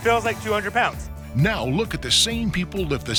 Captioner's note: voiceover